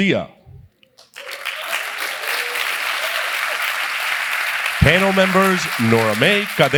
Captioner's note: applause